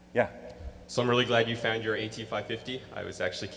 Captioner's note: voiceover